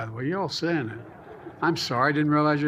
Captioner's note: laughter